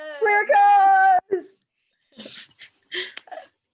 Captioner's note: laughs